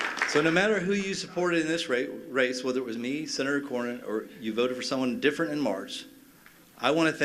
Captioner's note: applause